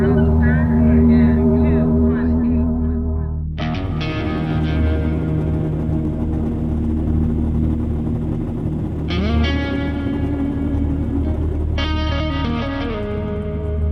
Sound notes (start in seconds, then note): 0.2 intense music; 4.9 car engine rumbling; 11.1 intense music